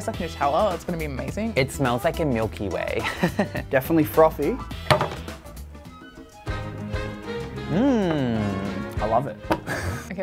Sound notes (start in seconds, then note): 3.0 laughs; 4.9 pitcher clatters; 6.4 upbeat music; 7.7 laughs